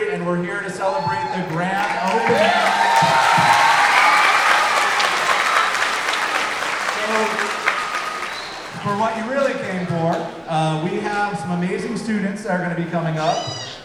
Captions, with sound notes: And we're here to celebrate the grand opening. (everyone applauding) So for what you really came for, we have some amazing students that are gonna be coming up